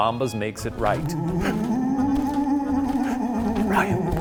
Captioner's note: spooky moaning